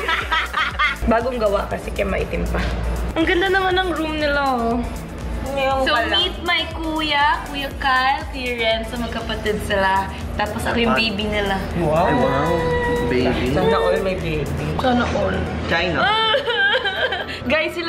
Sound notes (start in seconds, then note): 0.0 laughs